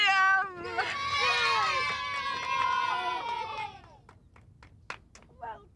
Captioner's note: children cheering